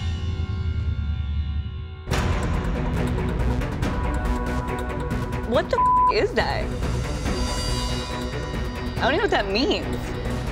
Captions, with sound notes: What the (beep) is that? I don't even know what that means.